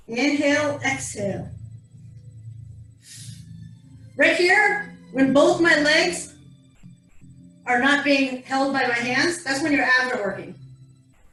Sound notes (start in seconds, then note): 2.9 exhales